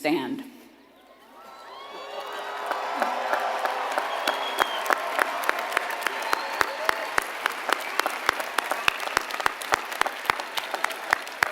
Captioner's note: applause